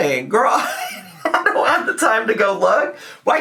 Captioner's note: chortles